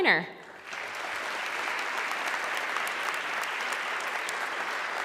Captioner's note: audience clapping